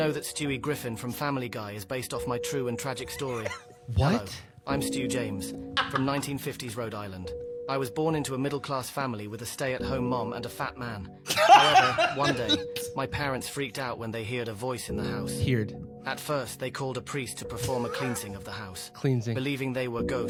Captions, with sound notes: What?! (laughing) (laughs) "Hear-ed." "Cleans-ing."